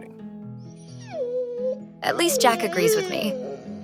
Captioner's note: Jack barking